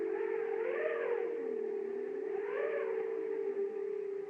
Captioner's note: wind Howling